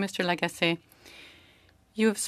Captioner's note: speaking French